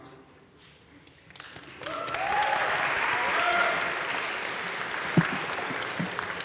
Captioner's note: audience cheering and applauding